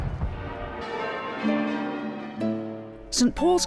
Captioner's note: bells ringing; gentle music